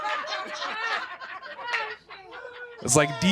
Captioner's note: laughter